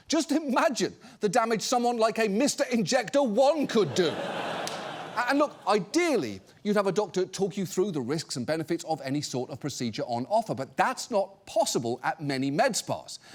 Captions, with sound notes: just imagine the damage someone like a MrInjector1 could do. (AUDIENCE LAUGHS) And look, ideally, you'd have a doctor talk you through the risks and benefits of any sort of procedure on offer, but that's not possible at many med spas.